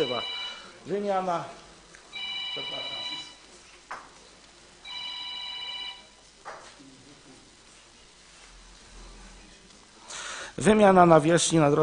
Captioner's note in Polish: dzwoni telefon